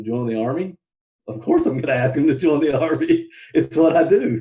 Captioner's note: laughs